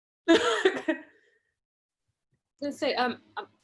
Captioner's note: laughs